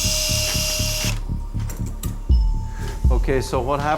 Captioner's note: tool whirring